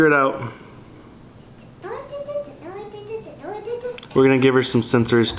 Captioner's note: babbling